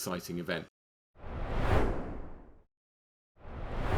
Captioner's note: screen swooshing